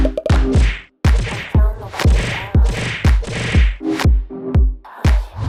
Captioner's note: punches slamming; rhythmic digital music